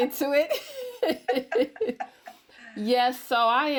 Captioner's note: laugh